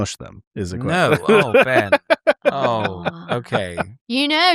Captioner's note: laughs; laughter